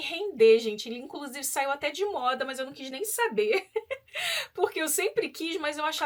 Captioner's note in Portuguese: risadas